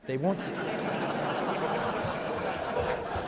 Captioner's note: laughter